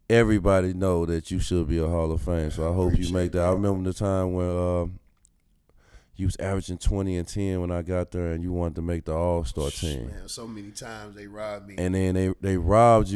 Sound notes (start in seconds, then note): 10.4 exhales